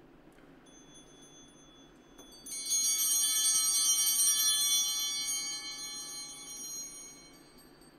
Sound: altar bells ringing

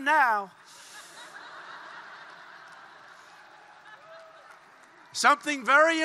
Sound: laughter

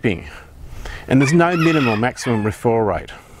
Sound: rooster crowing

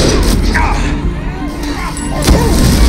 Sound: grunts

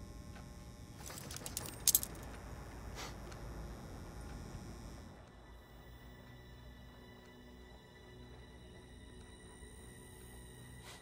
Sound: metal clanking

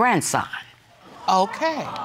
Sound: audience exclaims

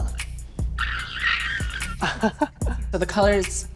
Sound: squeals

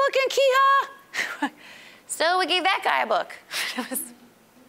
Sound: chuckling

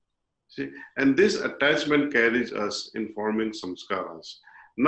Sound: impressions

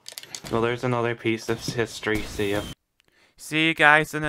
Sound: fireworks

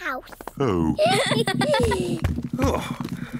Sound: all giggle

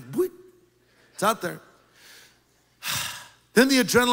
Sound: loud exhaling

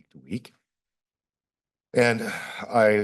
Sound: pause

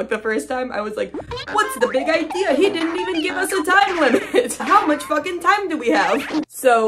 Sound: laughing; goofy sound effects

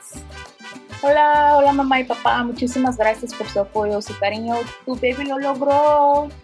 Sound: speaks in foreign language

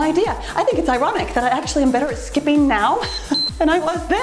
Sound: timer beeps

